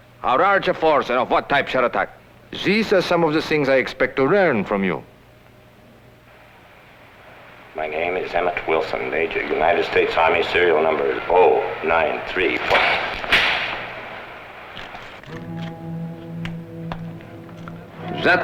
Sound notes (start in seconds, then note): 12.6 slapping; 15.2 suspenseful music